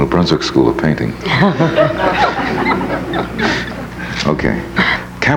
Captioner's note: laughs; audience laughs